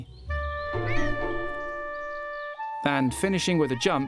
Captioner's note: cat meows